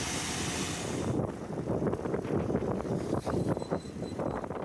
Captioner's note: wind against the camera